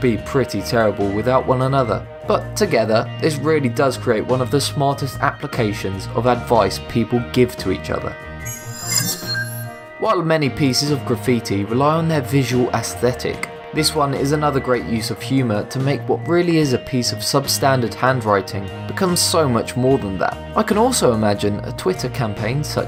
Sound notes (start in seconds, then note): 8.4 sharp chiming